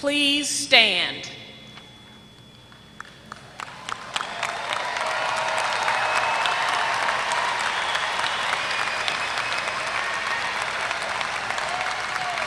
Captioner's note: applause